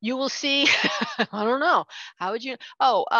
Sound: chuckles

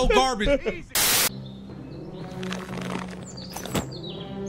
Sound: laughing; birds chirping

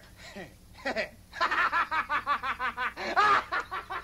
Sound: laughing

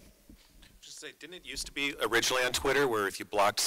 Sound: voiceover

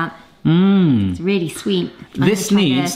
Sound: hums

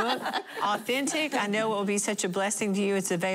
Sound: laughter

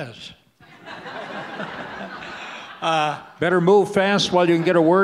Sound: audience laughs

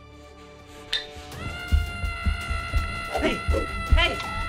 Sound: dramatic music; wood stick clack; Silver Screamer screaming

